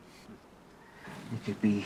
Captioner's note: birds chirping